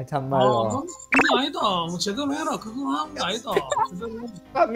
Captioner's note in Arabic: بلهجة بوسان